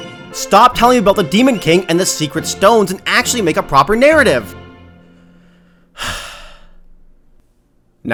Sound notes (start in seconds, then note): 5.9 sigh